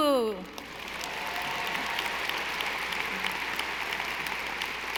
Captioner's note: audience applauding